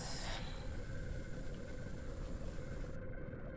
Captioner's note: digital noise